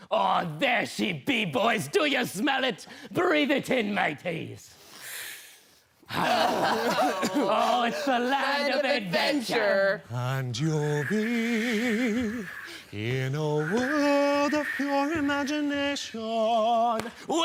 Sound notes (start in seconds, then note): 4.7 deep breaths in; 6.1 coughing and gasping